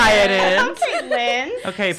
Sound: laughing

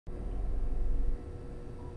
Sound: electric buzzing

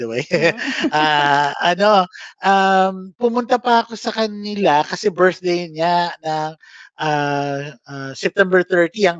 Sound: laughs

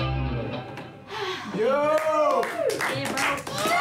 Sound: cheering

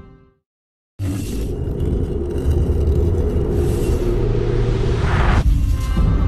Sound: more dramatic sounds

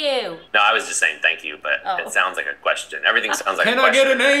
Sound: normal voice

